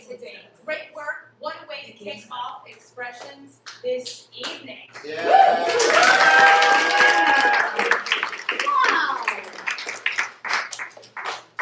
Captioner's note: applause